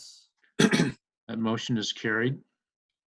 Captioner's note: clears throat